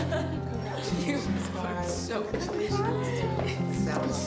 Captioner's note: attendees laughing; speaking faintly